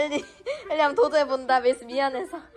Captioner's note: struggling